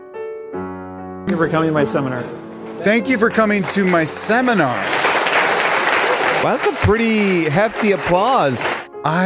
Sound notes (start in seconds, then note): 5.1 hands clapping